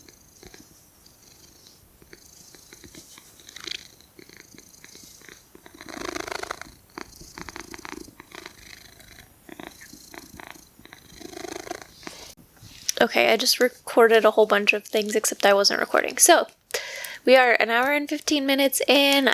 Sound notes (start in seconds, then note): 1.6 cat purring